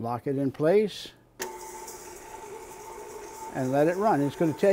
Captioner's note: mixer whirring